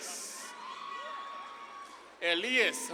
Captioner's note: audience claps and cheers